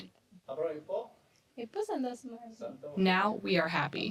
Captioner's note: speaking foreign language